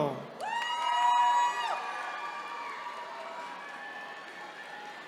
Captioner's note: attendees cheering